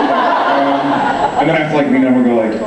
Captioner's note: laughs